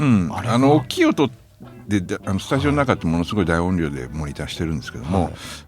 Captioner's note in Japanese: none